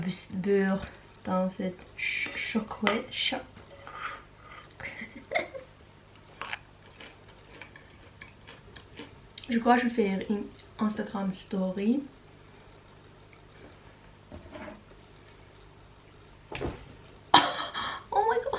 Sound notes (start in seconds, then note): 6.8 chewing; 17.4 ahhahah